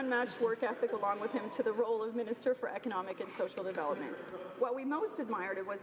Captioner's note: laughter